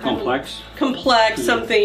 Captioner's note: pat